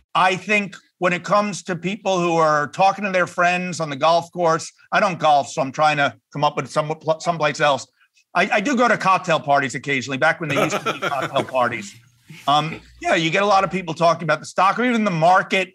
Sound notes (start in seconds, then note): 10.5 laugh